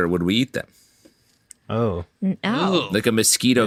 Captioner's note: disgusted noise